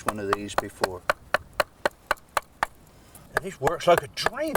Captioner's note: tool tapping